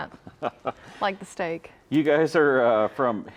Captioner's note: chuckles